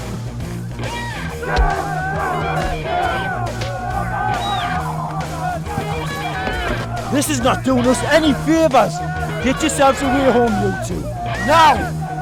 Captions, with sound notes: (Smack!) (Guitar solo) This is not doing us any favours. Get yourselves away home you two, now!